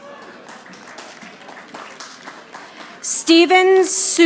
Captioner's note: audience applauding